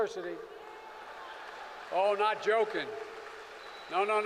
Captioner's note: applause